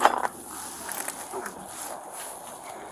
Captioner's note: crunching